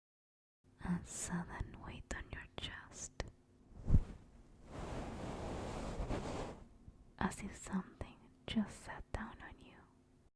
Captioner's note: soft thud and rustle